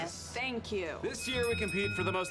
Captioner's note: bell dings